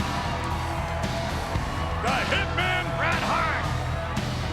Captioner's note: applause